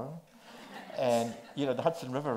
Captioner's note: audience laughs